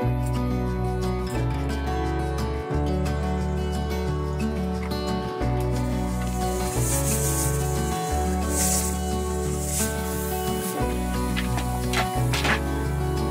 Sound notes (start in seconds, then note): 0.2 relaxing music; 6.0 pressure cooker sizzles; 10.4 relaxing music